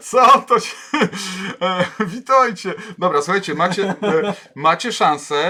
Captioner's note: laughs, reads chat entries